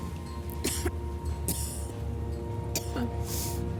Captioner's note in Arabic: سعال